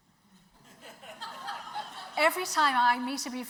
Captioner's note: audience laughs